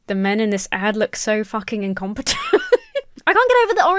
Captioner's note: laughs